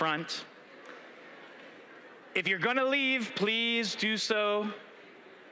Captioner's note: background chatter